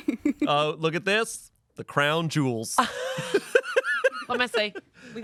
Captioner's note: laughs